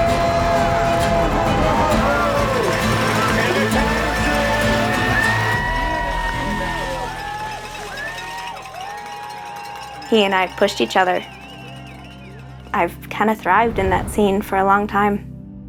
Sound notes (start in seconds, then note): 6.3 crowd cheering